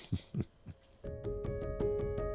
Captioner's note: instructor laughs